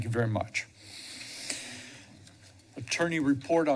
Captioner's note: inhales